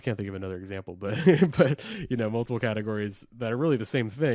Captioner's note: laughs